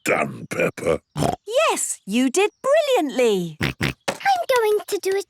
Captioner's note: snorts